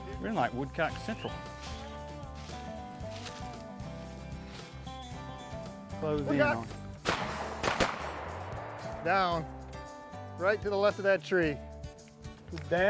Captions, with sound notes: - Woodcock! (multiple gun shots) - Down, right to the left of that tree.